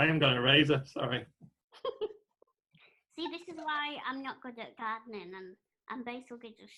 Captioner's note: laughter